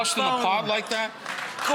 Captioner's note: audience applauding